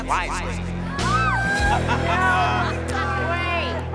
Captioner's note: all laughing